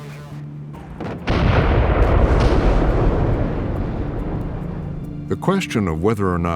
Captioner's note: explosions